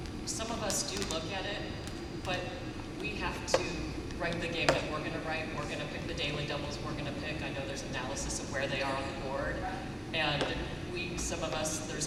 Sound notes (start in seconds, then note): none